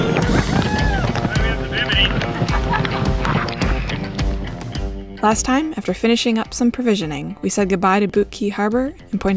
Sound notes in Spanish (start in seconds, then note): 1.7 risas